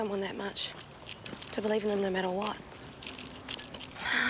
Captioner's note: sighs